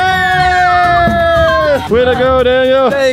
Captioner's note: cheers